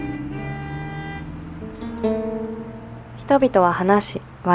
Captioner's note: street noise